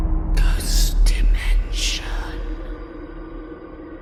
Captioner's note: ghostly Voice